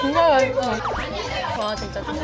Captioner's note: nom nom